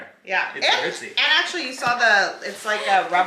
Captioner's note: laughs